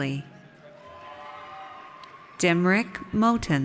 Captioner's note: audience cheers